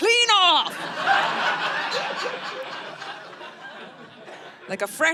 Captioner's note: audience laughing